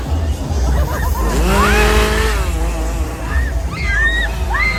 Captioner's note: chainsaw whirring; laughing; chainsaw whirring; people screaming